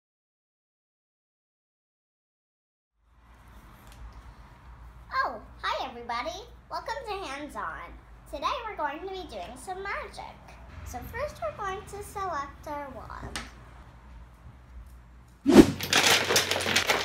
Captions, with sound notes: Oh! Hi everybody. Welcome to Hands On. Today we're going to be doing some magic. So first we're going to select our wands. [whoosh!]